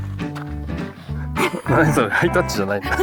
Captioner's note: sniff